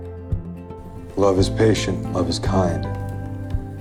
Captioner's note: voiceover